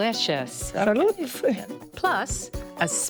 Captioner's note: both speaking foreign language